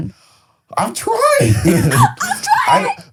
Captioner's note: laughs